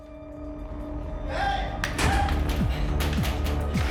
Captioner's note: heavy door